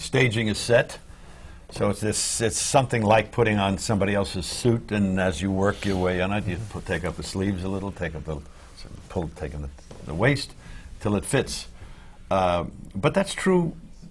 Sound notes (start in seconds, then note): none